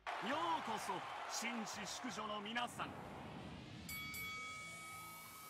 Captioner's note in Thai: ปรบมือ